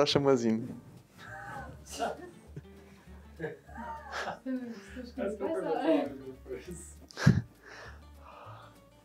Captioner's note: laugh